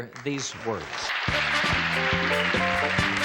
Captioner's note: audience cheers; theme music plays